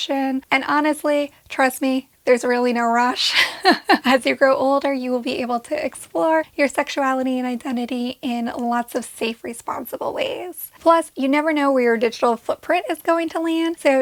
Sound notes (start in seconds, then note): 3.2 giggles